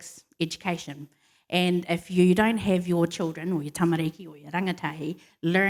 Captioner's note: foreign words